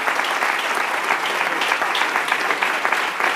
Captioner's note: applause